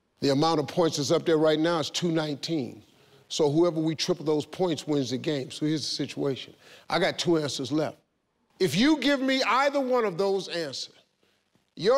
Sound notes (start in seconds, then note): none